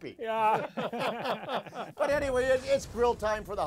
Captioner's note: laughing